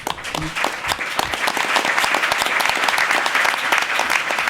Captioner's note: applause